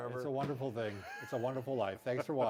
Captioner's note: laughs